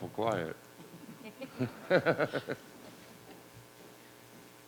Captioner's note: laughing